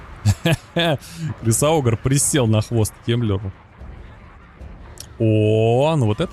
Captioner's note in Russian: фыркает